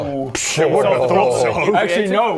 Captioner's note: affronted noises